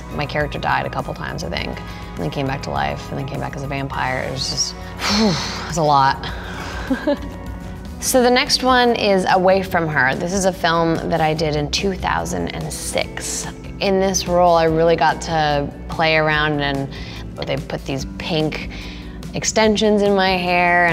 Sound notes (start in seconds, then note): 6.2 exhales